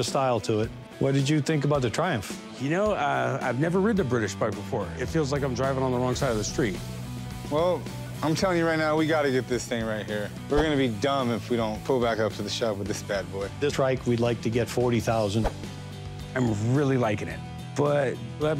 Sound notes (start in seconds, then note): none